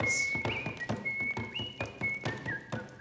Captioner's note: whistling